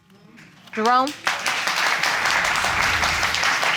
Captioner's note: applause